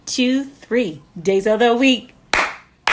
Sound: clap, clap

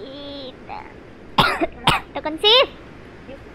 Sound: cough

